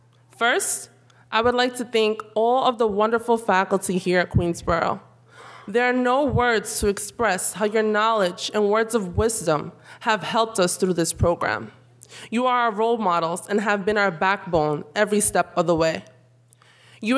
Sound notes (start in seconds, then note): none